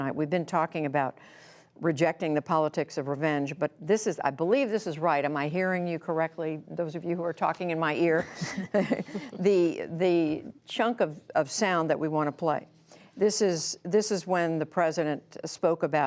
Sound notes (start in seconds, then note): 8.1 laughter